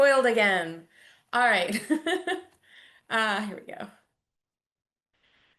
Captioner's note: chuckles